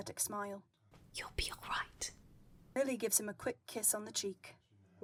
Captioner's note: whispering